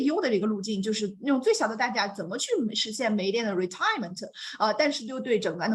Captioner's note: speaks Mandarin; continues speaking in Mandarin